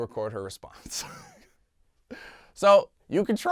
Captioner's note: laughs